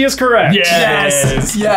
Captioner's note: bell dings